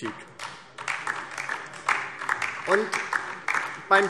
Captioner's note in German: Beifall DIE LINKE